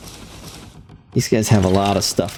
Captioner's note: laughs